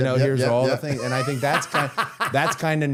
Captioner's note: Matt laughing